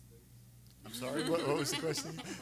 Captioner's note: everyone laughing